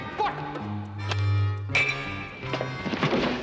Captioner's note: clinking